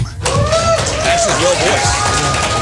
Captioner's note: crowd cheering